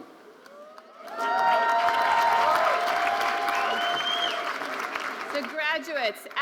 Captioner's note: audience applauding and cheering